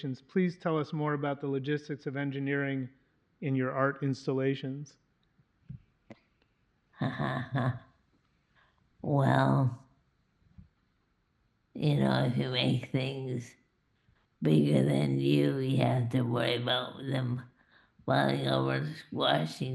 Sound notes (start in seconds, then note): 7.0 laughs